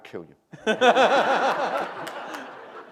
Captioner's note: laughter